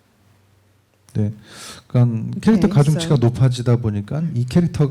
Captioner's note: speaking korean